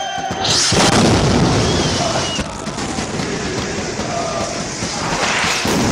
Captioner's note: celebratory cheering and singing; sound of explosions